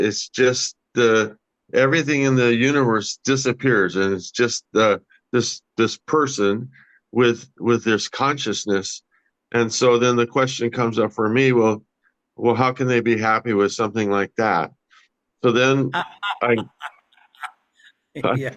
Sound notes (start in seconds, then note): 15.9 laughs heartily